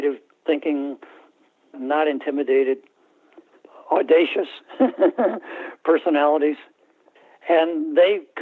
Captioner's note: laughter